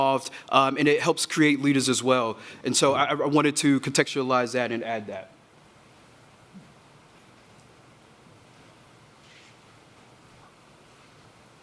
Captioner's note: A pause